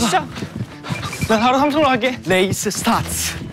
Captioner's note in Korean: 후다닥